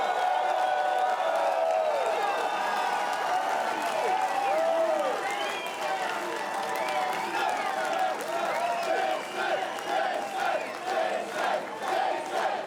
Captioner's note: cheers and applause